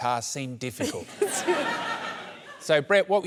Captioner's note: laughs